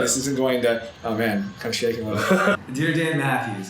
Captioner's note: laughter